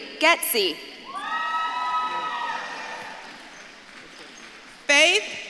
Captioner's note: audience claps and cheers